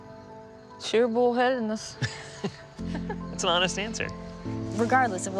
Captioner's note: laughs